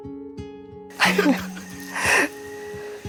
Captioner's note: laughing nervously